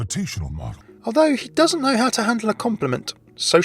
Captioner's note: voiceover